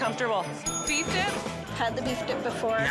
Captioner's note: bell rings